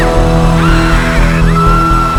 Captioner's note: screaming